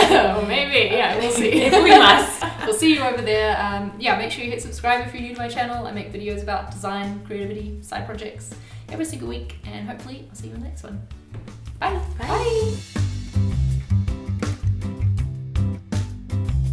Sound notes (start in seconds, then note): 1.3 laughs; 12.5 in Unison; 13.4 upbeat music playing